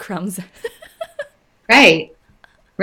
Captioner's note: laughing